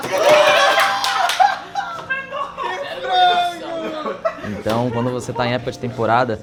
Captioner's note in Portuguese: sons histéricos